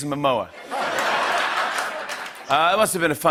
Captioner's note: laughter and applause